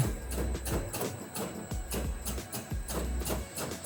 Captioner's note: machine clicks